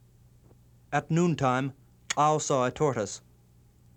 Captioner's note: non-english speech